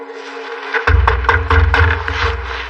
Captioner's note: knocking